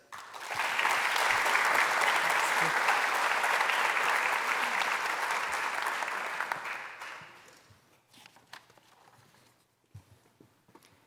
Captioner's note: applause